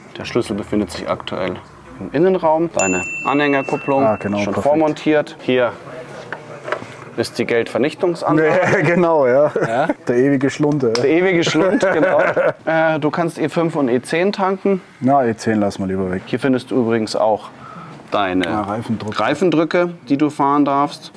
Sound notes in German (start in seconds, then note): 11.4 lacht